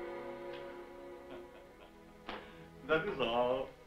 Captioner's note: soft chuckling